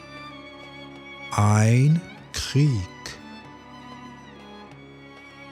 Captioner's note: german